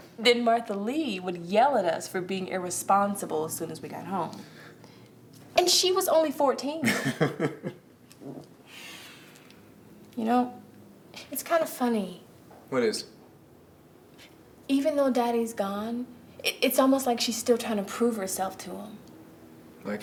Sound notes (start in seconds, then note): 6.8 Jesus chuckling